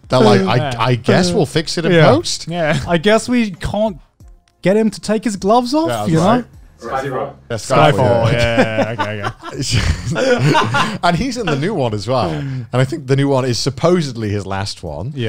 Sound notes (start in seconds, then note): 10.2 everyone laughs